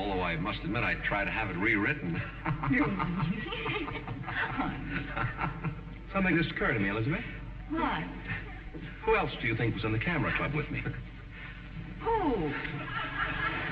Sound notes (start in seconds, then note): 1.9 laughs